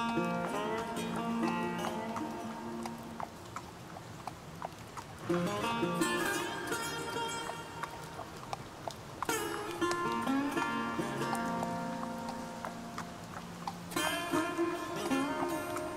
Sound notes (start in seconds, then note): 0.0 western music continues; 1.1 horse hooves clop